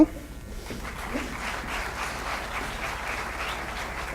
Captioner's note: applause